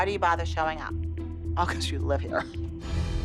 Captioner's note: chuckles